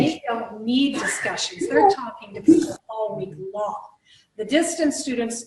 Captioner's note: interference